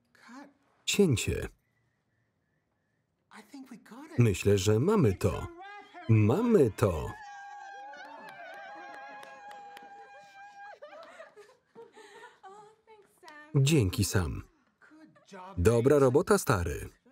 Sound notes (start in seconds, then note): 6.3 cheering